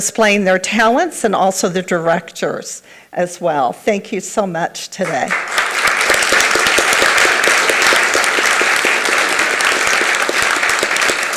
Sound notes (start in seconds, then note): 5.0 everyone applauds